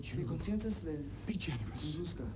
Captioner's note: speaks in foreign language